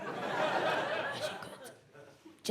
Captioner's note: audience laughs